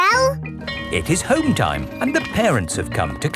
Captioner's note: bell tolling